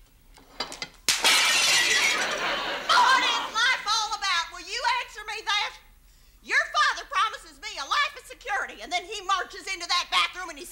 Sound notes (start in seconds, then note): 1.0 glass breaking; 2.0 audience laughs